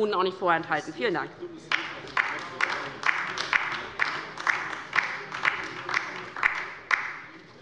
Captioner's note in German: Beifall bei der LINKEN